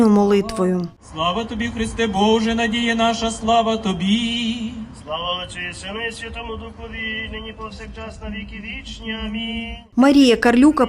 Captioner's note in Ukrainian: лунає молитва